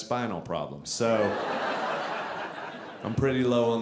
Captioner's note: audience laughing